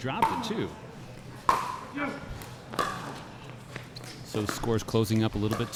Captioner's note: ball being hit